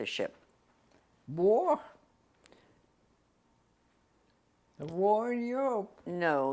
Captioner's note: pauses for 3 seconds